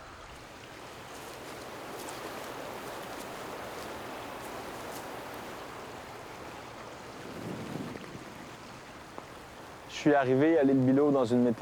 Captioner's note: sound of flowing water